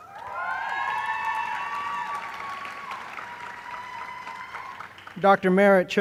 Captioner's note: applause